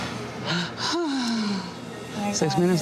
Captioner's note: sighing